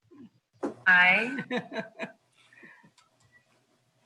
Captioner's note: laughs